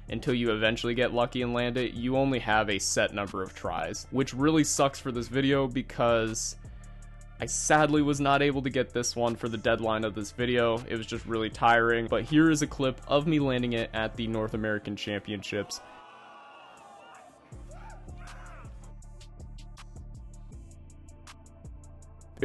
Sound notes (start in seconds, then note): 15.5 men cheering; 17.5 upbeat music continues